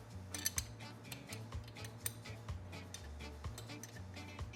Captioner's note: metal clanking